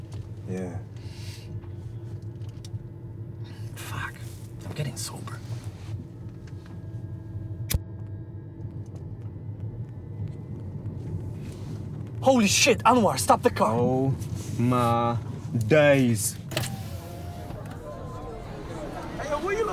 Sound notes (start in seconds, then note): 16.4 window lowers